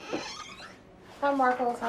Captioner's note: door creaking